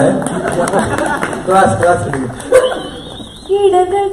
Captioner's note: laughs